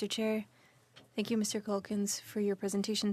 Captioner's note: speaking French